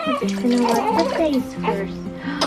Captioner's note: baby crying